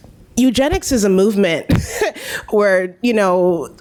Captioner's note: laughs